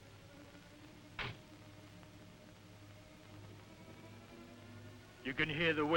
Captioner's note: car door bangs shut